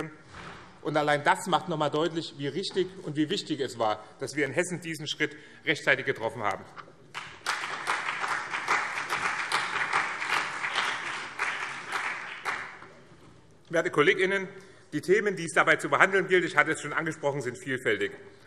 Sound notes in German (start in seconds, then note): 7.1 Beifall BÜNDNIS 90/DIE GRÜNEN und CDU